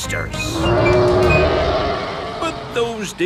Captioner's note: roaring